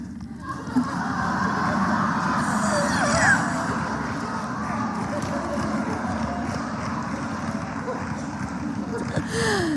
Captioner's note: laughter